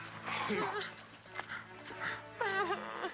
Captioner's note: Carrie gasping; Dan groaning; dramatic music; Carrie crying